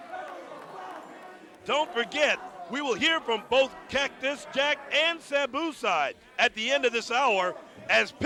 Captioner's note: crowd chatter